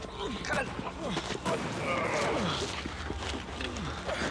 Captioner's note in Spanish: sigue el intenso tiroteo